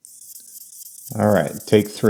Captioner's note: marker scuffing